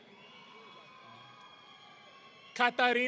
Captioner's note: audience cheering